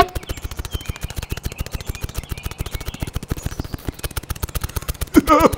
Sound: snapping

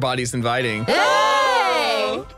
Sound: cheers

